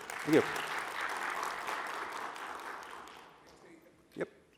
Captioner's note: applause